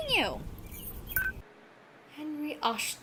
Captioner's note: hangs up